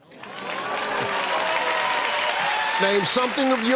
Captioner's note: cheers and applause